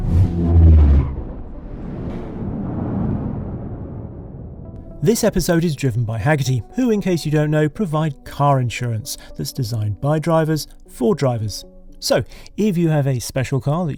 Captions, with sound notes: (engine rumbles) This episode is driven by Hagerty, who, in case you don't know, provide car insurance that's designed by drivers for drivers. So, if you have a special car